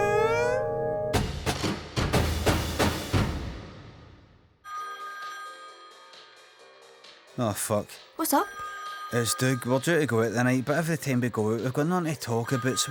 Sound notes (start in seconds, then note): 4.6 phone rings